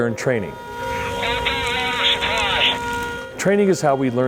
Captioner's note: man On Radio